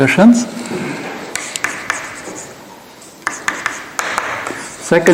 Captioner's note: keyboard clacking